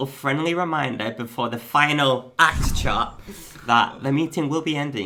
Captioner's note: whoosh